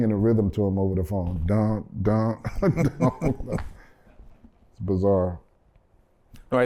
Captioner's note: laughter